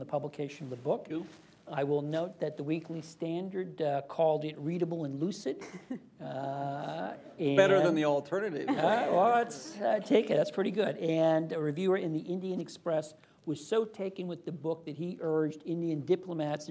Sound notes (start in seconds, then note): 5.6 laughter; 8.6 laughter